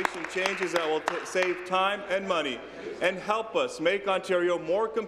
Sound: applause

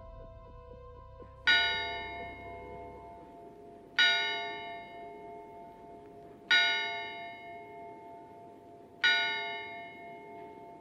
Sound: clock chimes 4AM

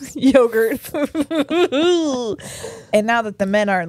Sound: both laugh

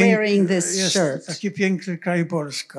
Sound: foreign language

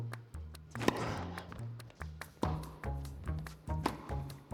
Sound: rackets smacking

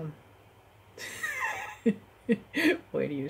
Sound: laugh

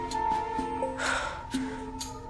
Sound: sigh

